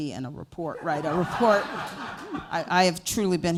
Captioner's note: laughter